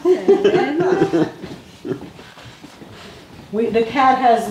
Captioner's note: all laughing